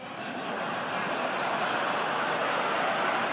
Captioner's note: laughter